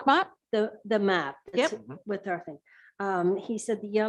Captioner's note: murmurs